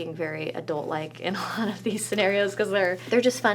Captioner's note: laughs